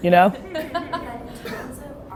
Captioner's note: laughter